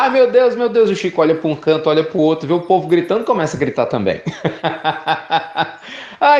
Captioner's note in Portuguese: Risos